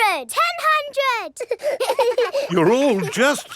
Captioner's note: children laughing